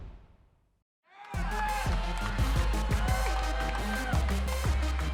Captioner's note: cheers and applause